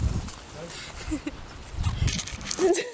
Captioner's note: laughter